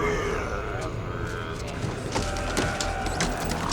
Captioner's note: rattling